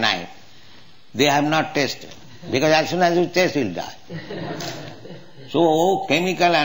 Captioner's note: laughter